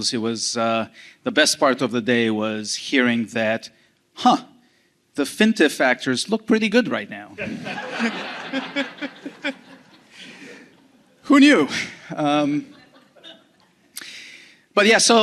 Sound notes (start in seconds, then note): 7.4 laughter